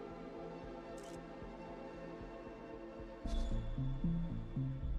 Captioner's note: camera clicking